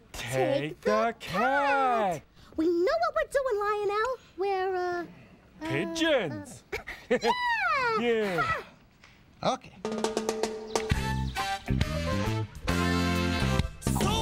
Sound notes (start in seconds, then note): 8.1 sighs